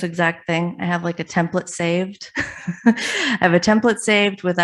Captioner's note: laughs